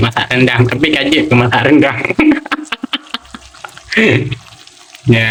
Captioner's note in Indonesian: tertawa